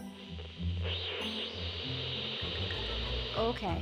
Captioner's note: static sizzling